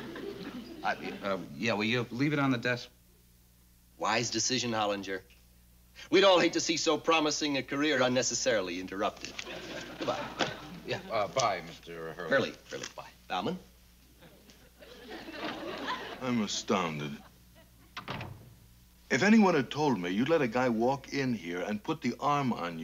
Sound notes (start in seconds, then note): 17.9 door closes